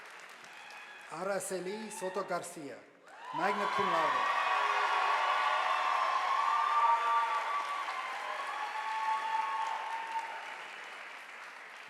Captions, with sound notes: Aarasie Cinto Garcia magna cum laude, (audience applauding)